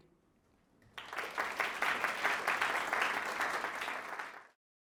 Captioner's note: applause